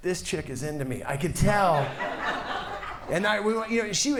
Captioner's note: audience laughs